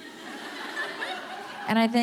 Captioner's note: audience laughing